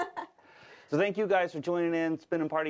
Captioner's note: laughs